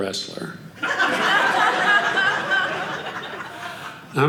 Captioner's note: audience laughing